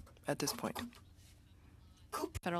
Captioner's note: speaking French